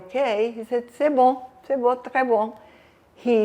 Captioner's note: french